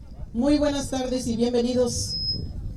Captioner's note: spanish